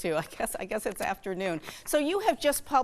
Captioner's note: chuckling